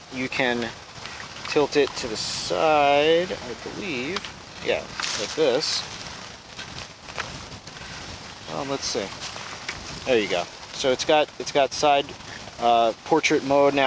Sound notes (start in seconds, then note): 5.5 dry leaves crashing; 5.5 wind whirring